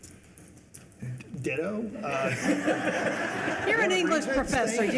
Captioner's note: everyone laughing